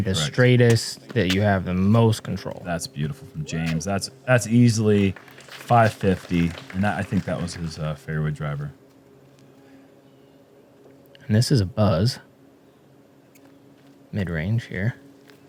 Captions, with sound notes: the straightest that you have the most control. -That's beautiful from James. That's easily 550. [applause] -I think that was his fairway driver. -This is a buzz midrange here.